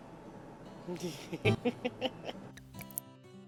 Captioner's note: laughter